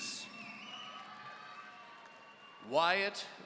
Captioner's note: audience cheering